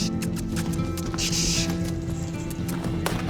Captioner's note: clicking tongue and hissing